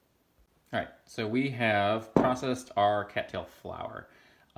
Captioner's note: clunk